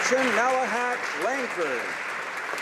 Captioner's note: applause